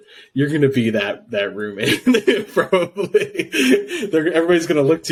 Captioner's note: laughs